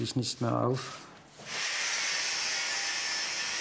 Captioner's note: high-pitched whirring